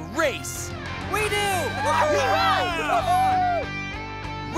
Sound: cheering

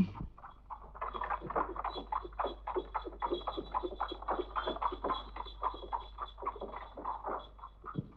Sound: cart rumbling

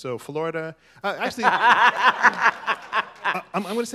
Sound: laughter

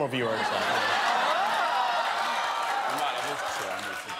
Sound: laughter

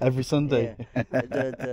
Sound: laughs

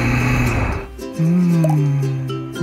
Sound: Brown inhales; sighs dreamily

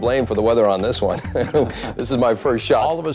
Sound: chuckles

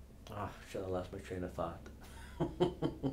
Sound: laughs

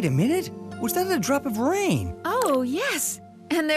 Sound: none

